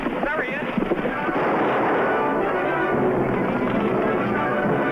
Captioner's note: suspenseful music; gun firing